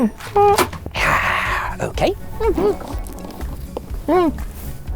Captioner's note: sighs